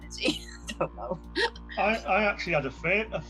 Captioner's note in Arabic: يضحك